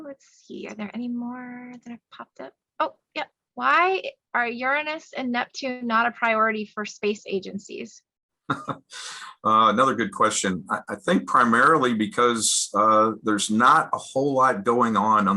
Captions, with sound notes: Let's see, are there more that popped? Why are Uranus and Neptune not a priority for space agencies? - (laughs) Another good question. I think primarily because there's not a whole lot going on